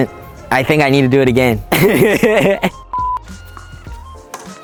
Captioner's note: laughing